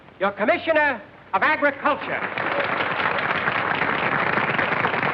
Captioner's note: applause